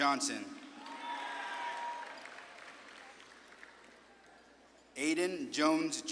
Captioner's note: audience claps and cheers